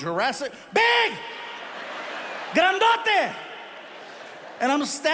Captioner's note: speaking in foreign language